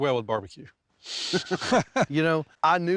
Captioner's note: both chuckle